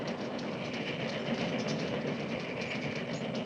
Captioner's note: locomotive sounds